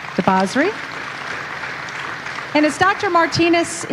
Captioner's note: audience applauding